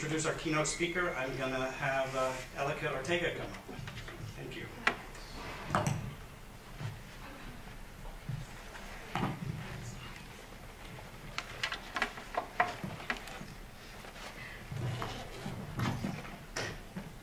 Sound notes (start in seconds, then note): 5.4 sounds of furniture movement and low whispering